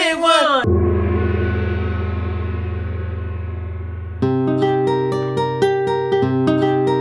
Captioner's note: gong